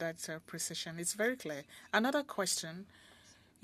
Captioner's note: speaking French